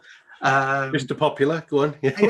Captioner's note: laughs